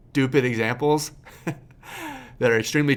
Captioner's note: laughs